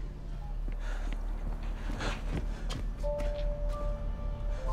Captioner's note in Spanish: Jadeando